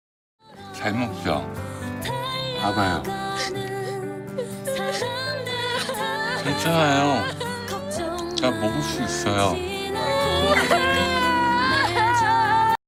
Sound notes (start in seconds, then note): 4.6 loudly crying; 9.9 loudly crying